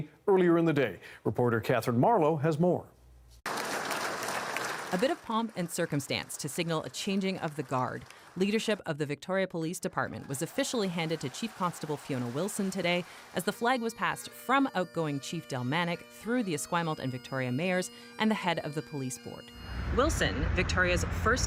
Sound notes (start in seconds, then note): 7.7 applause